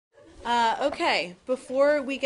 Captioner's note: laughter